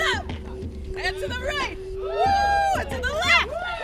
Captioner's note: cheers